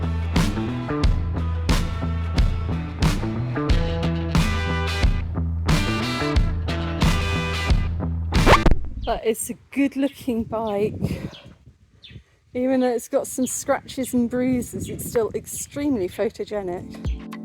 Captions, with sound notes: [record scratch] That is a good-looking bike. Even though it's got some scratches and bruises, it's still extremely photogenic.